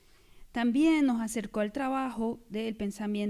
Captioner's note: speaking spanish